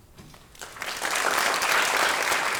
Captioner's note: applause